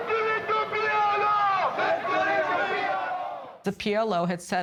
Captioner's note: crowd